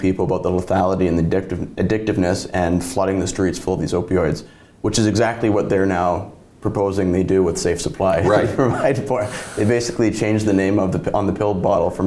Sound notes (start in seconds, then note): 8.2 laughs; 8.2 chuckles